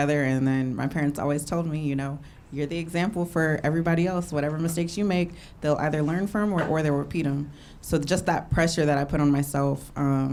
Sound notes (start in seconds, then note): none